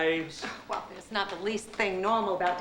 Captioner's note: chuckling